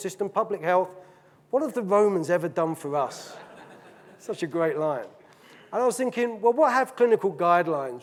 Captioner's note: audience laughing